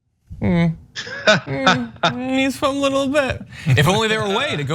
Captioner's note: laugh